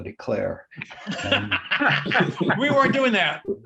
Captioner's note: laughter